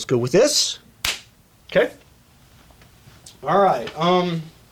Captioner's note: hands clapping